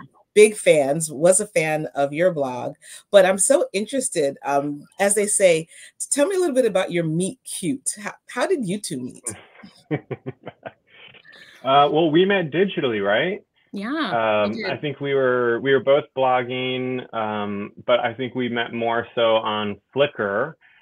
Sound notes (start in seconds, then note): 9.2 laughs